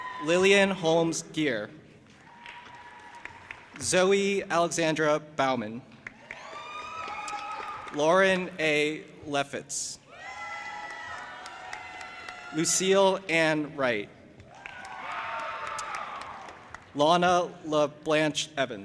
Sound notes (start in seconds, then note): 0.0 audience applauding and cheering; 2.2 audience applauding and cheering; 6.1 audience applauding and cheering; 10.2 audience applauding and cheering; 14.5 audience applauding and cheering